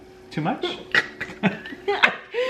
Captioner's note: choking quietly; laughing quietly